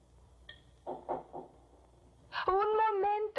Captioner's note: knocking